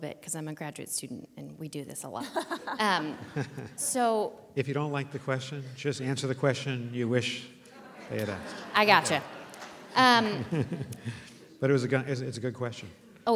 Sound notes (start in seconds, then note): 2.2 laughter